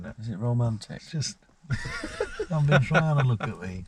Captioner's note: laughing